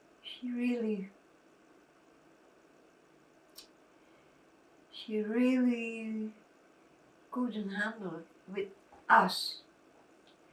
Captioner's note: pauses 6 seconds